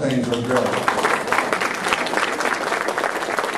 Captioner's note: applause